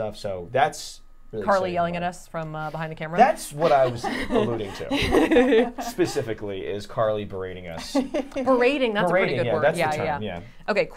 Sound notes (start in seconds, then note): 3.5 laughing